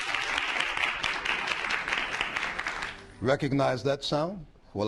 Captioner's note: applause